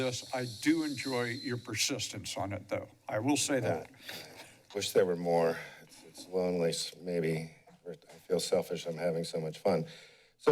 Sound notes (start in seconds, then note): 4.0 chuckles